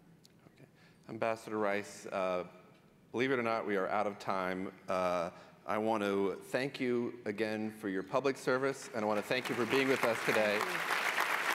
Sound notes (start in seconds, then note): 10.5 applause